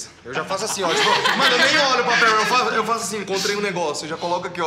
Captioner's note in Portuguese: Risadas